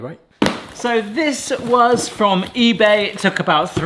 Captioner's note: hands smack